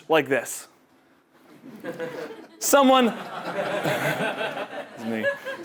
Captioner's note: laugh